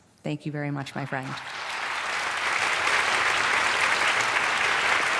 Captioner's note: applause